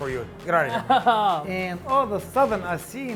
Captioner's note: laughter